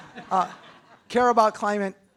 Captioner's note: attendees chuckle